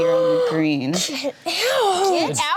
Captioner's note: gasps